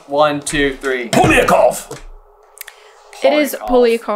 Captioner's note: whispers